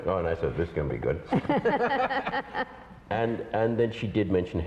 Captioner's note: laughter